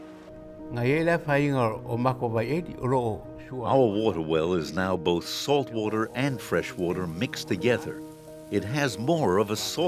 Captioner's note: foreign language